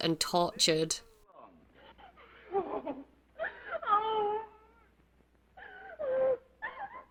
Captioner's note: woman screaming and crying